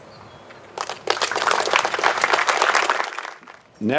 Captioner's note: applause